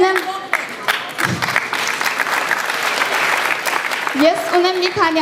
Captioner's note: applause